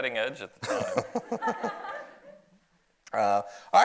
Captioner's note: audience laughs